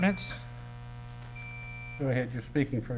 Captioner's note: beeps